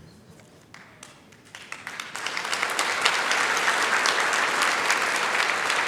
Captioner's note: applause